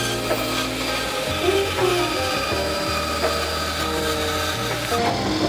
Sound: saw cutting through wood

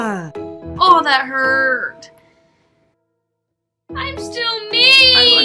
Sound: wails

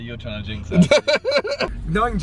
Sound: laughing

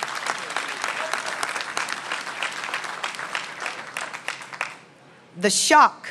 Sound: applause

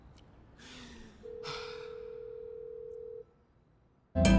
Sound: phone ringing

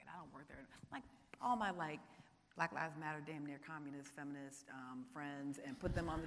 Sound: voice muffled

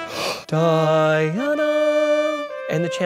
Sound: he hums

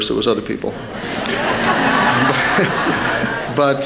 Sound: laughter

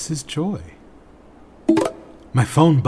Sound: bloop

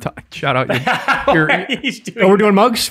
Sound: laughs

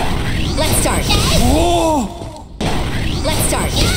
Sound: moans

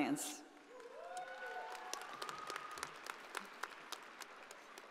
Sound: audience applauding

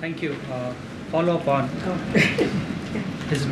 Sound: laughs

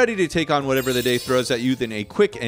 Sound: chimes tinkling

